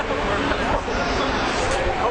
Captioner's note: laughing